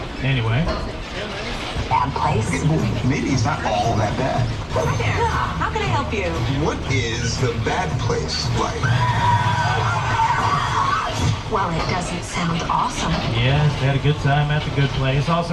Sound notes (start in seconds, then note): 8.6 souls screaming